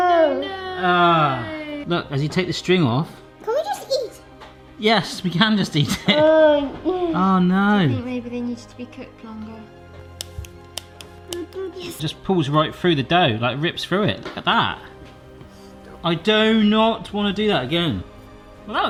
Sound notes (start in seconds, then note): 10.1 snipping; 10.3 spooky music